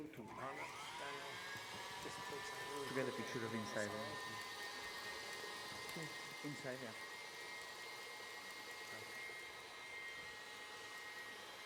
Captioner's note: side conversation, blender whirring